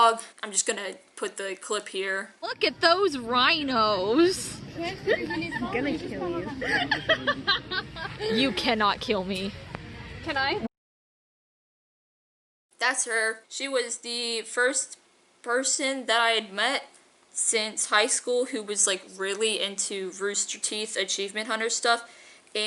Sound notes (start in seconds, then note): 4.7 laughing